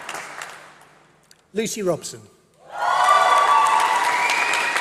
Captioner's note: applause